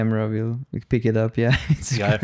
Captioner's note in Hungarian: nevetés